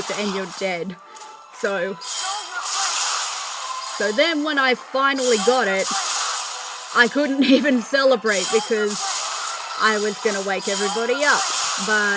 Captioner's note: laughter